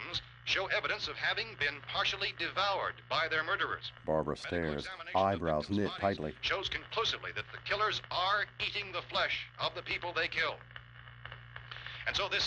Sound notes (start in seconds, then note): none